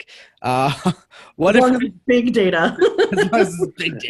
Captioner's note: laughs